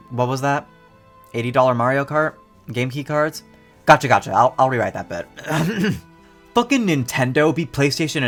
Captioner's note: ahem